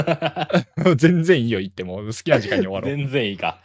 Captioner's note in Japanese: 笑い